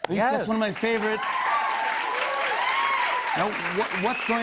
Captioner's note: cheers and applause